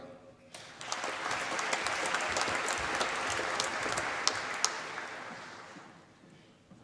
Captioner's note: applause